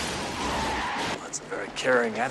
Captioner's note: tires screeching